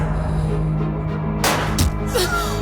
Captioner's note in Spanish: Disparo; Quejido